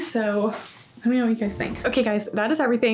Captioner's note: graphic whooshing; smooth music